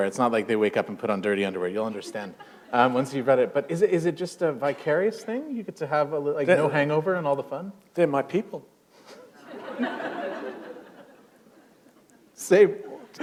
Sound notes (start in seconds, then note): 9.3 laughter